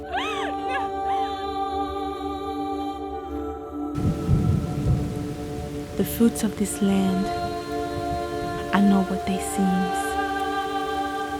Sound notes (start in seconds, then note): 2.4 ethereal music; 3.9 rain falling